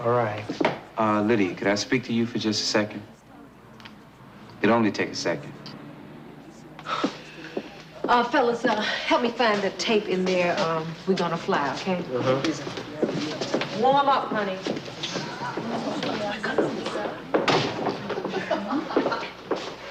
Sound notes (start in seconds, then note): 6.7 sighs; 15.3 chattering